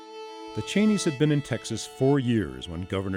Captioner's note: voiceover